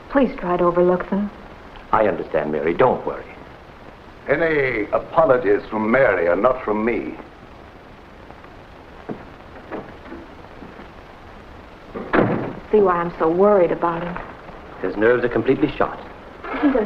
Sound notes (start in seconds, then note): 9.5 door opens; 11.9 door closes